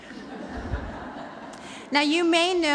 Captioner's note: laughter